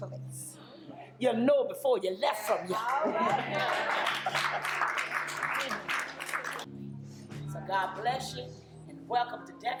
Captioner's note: crowd claps